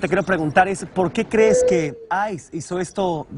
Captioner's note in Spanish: habla en ingés